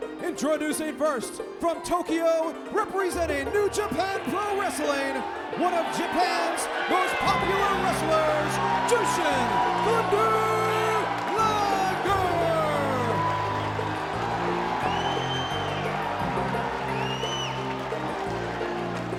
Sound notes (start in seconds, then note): 1.9 lively music; 11.8 crowd cheering